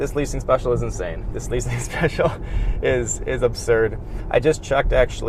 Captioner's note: laughs